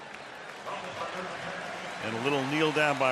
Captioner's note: applause, cheering